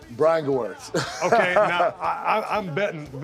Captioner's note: laugh